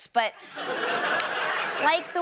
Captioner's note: audience laughs